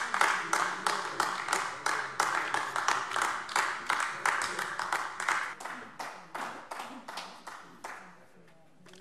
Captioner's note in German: Beifall AfD